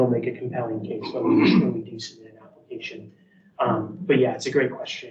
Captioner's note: participant coughs